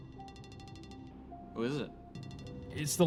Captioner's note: phone rings